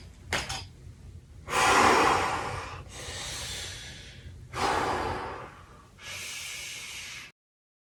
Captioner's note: deep exhales and inhales